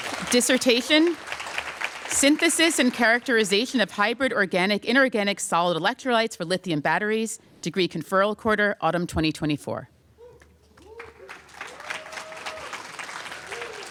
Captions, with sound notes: Dissertation-- "Synthesis and characterization of hybrid organic-inorganic solid electrolytes for lithium batteries." Degree conferral quarter, autumn 2024. [APPLAUSE]